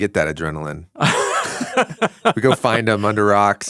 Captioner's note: laughs